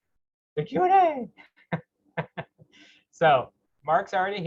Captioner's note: laughing